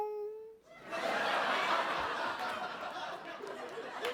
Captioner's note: laughter